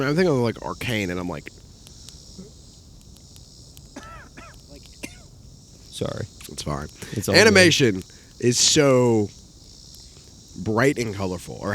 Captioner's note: coughs